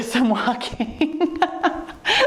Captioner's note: laughs